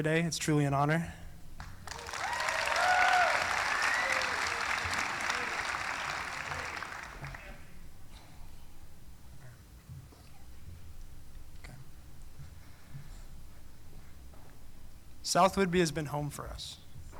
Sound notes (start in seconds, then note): 1.6 applause; 5.6 cheering